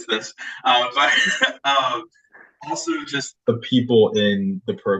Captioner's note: laughs